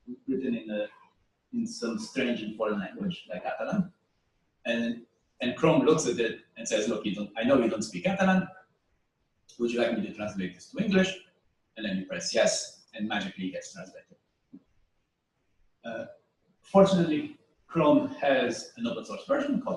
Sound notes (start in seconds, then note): 14.7 pause